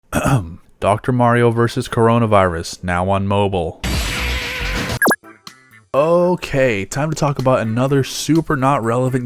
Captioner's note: ahem